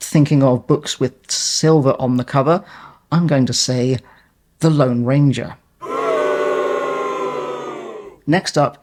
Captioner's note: crowd boos